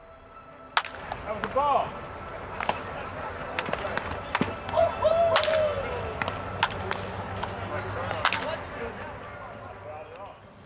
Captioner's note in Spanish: sonido ambiental de la práctica de bateo